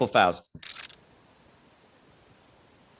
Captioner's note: audio glitches; static hisses